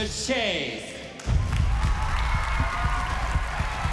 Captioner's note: audience cheers, applauds